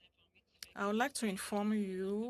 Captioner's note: speaking French